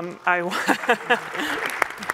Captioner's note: applause